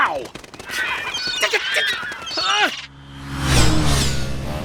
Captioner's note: screaming